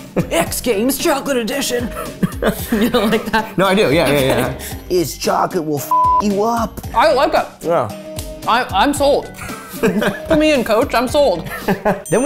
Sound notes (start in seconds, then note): 5.9 beep